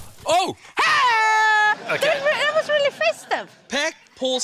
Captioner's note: both laugh; pop!; yells